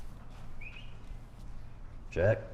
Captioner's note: whistles